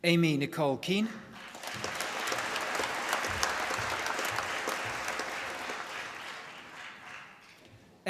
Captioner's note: applause